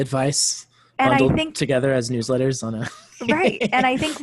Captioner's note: laughs